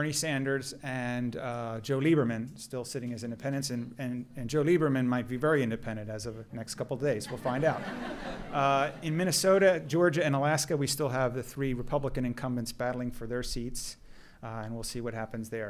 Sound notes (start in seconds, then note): 7.2 laughter